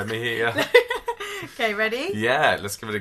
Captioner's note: laughs